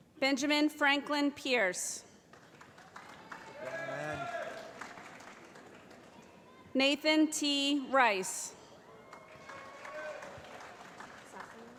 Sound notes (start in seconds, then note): 2.2 applause; 9.0 applause